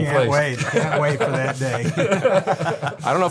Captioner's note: group laugh